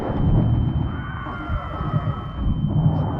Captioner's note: screaming